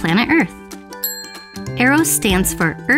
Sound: ding

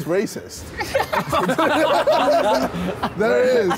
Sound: all laughing

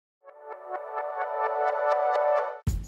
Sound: intro sound

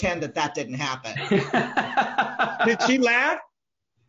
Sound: laughs

